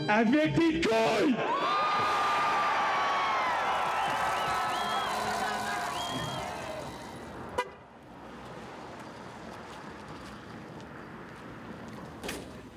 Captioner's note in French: acclamations